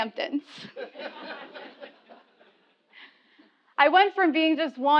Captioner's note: laugh